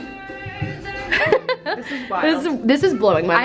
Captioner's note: laughs